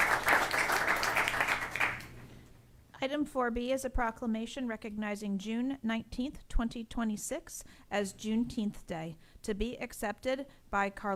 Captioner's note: applause